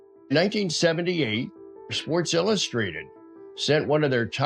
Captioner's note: pat